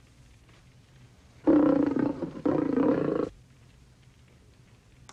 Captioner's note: Spot growls